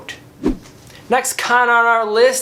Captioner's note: air whooshes